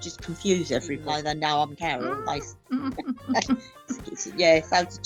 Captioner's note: laughs